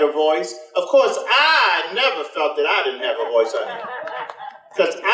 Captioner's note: audience laughter